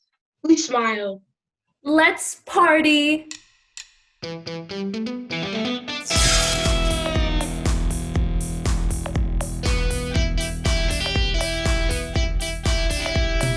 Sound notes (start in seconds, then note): 4.1 upbeat music; 6.0 zap